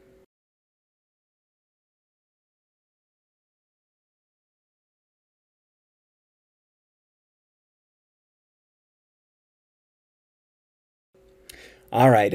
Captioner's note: silence